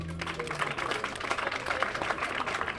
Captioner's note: applause